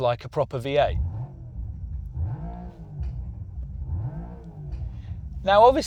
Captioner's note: engine revs quietly